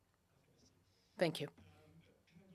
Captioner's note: speaking FRENCH